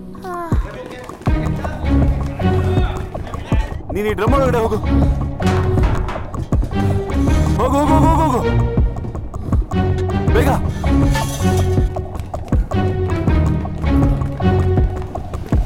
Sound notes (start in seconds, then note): 3.3 Malay Language